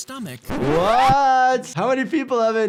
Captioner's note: vinyl record scratching